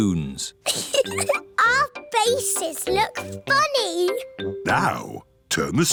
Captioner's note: giggles